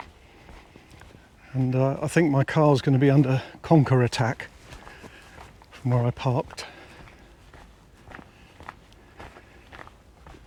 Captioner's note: foot steps